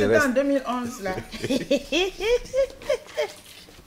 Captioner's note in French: rires